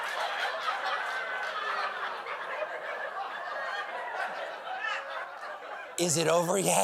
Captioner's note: laughter